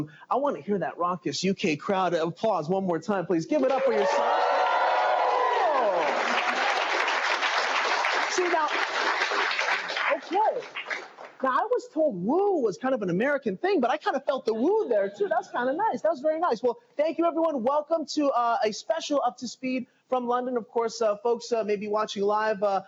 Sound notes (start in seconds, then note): 7.6 cheers and applause